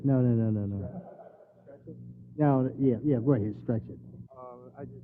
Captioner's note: laugh